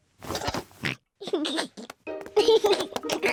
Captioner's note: oinks and giggles